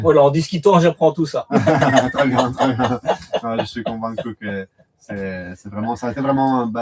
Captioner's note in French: rires